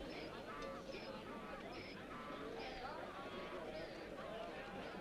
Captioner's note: townsfolk chattering